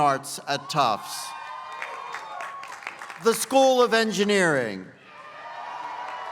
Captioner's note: applause; applause